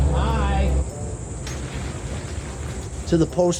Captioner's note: cage rustling, plastic tarp rustling